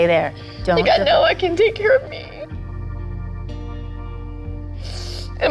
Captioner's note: sniffles